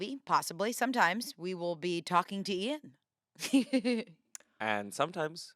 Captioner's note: laughs